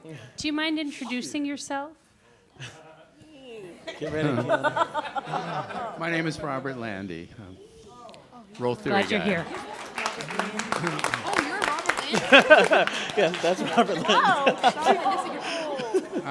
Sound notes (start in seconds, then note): 2.5 laughter and chatter; 9.7 claps; 12.2 laughing; 14.7 chatter